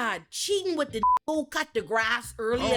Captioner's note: beep